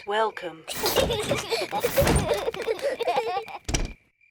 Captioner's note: children laugh